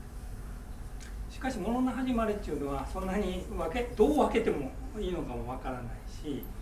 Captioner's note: speaking in foreign language